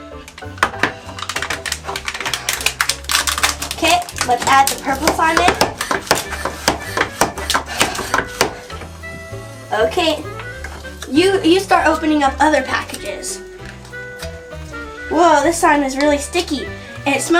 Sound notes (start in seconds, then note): 2.0 plastic wrapper crunching; 6.0 pumping noise